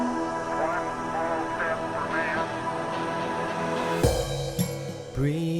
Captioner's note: Neil Armstrong transmission